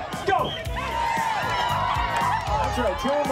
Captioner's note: cheers and applause